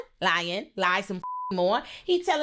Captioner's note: beep